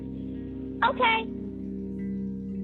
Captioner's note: on phone